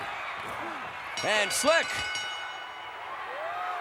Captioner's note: bell chimes